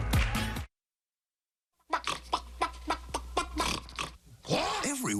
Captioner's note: clucking noises